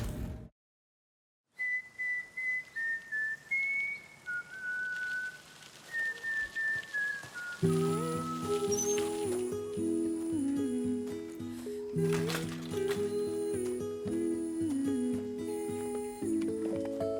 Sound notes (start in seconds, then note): 1.5 whistling; 7.6 mellow guitar melody playing